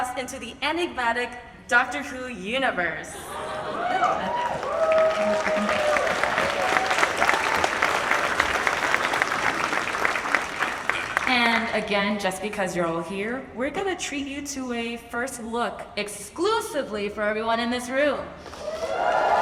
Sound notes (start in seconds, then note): 3.6 audience cheers and applauds; 18.5 audience applauds and cheers